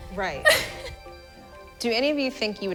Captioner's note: laughing